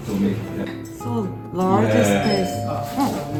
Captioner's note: ding dong